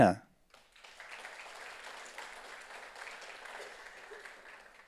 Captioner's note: audience applauds